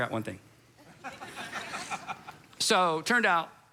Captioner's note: congregation laughs